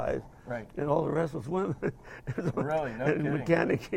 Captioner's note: laugh; laughing